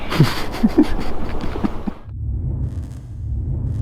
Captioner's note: laughs